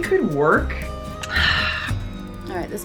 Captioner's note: sighs